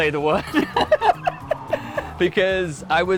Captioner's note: both laughing